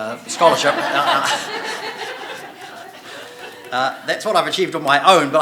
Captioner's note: audience laughing